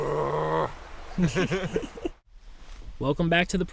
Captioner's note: Thomas growls; Jake and Thomas laugh